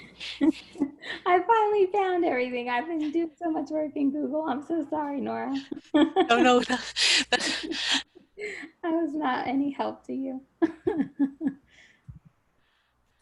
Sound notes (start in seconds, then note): 5.6 laughter; 10.6 laughs